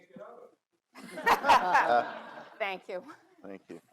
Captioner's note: all laugh